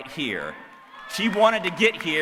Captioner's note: applause